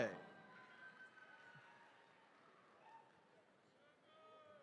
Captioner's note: attendees cheering